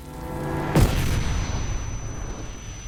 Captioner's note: Napalm zombie exploding